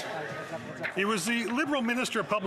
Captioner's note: some Applause